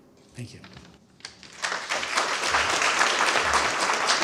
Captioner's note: applause